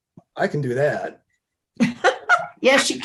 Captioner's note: laughter